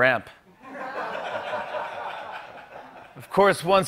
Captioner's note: laughter